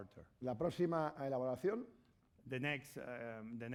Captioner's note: speaking spanish